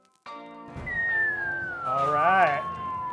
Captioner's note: whistling